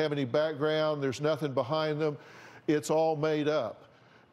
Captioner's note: none